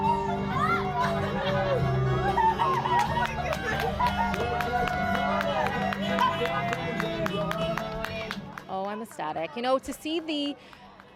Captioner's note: cheers and applause